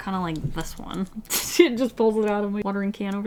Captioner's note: laughs